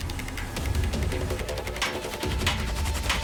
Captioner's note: hammering